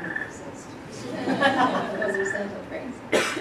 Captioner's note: laughter